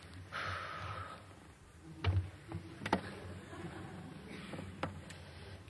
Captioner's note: sighs